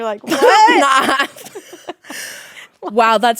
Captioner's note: laughing